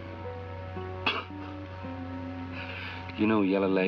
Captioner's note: chuckling